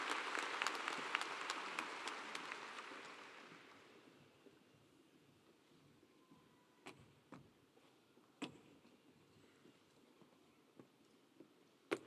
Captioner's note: cheers and Applause